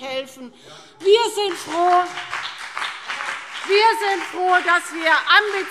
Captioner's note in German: Beifall CDU und BÜNDNIS 90/DIE GRÜNEN